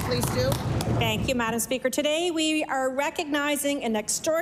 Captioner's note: applause